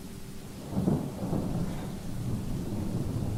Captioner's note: thunder